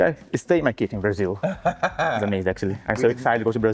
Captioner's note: laughs